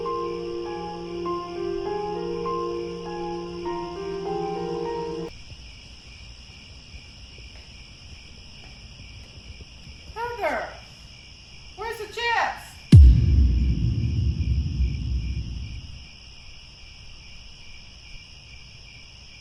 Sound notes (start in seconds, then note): 5.3 crickets; 12.9 drum hit; 16.2 crickets